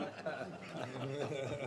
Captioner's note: laughter